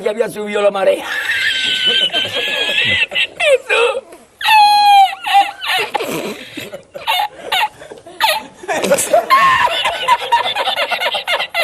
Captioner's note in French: Rires